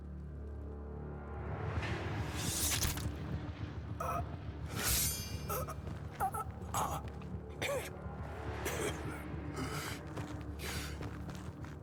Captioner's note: Ballas gasps like the weasel he is